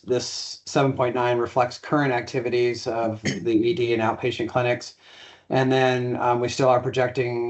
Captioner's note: clears throat